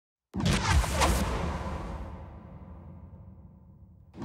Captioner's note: futuristic booming